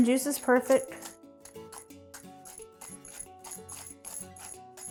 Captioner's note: pepper grinder grinds